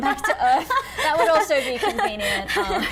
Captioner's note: laughing off screen